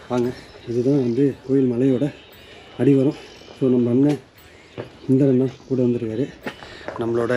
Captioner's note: speaker noise